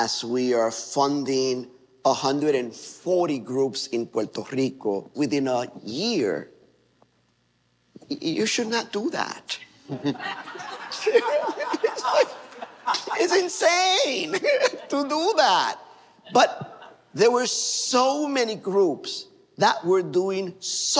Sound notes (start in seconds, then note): 9.8 laughter